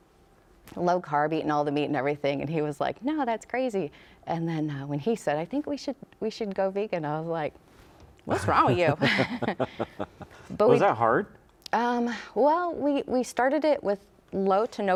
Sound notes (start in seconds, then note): 8.3 laughs